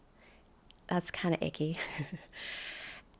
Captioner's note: chuckles